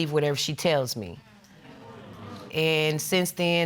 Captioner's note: audience murmuring